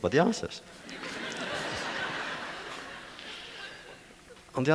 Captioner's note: audience laughter